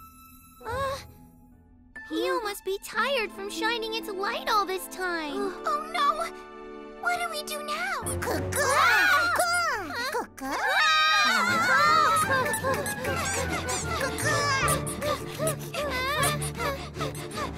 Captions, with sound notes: [gasps] Pio must be tired from shining its light all this time. Oh, no! What do we do now? -Coo-coo! Coo! Coo-coo. -[all gasping] -[all screaming] -Coo? Coo-coo! Coo... [all panting]